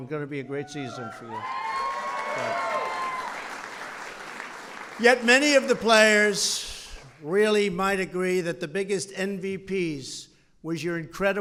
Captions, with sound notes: It's going to be a great season for you. (Applause.) Yet, many of the players really might agree that the biggest MVPs were your